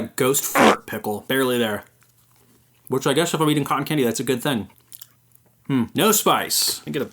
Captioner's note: smeck smeck smeck; smack